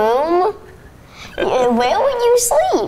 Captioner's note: laughs